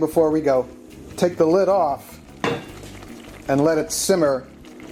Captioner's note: bubbling